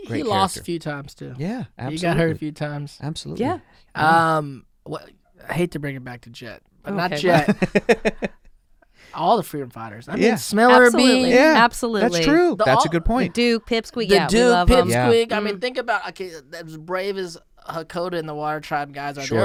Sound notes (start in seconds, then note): 7.2 laughs